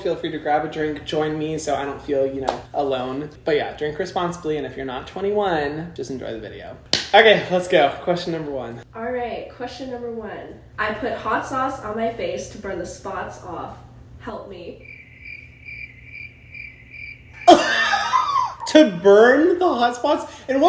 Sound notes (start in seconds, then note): 14.7 crickets chirping; 17.4 laughs